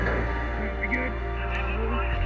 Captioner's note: siren blaring